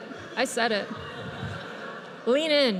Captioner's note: audience laughs